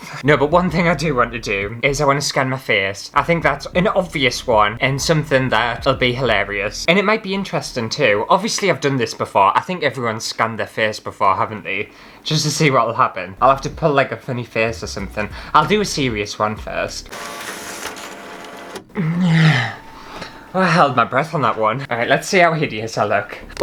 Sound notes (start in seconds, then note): 17.0 scanning Sounds; 18.9 exhales!